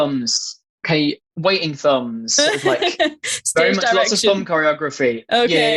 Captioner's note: interviewer laughs